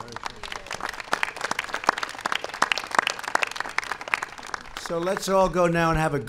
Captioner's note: applause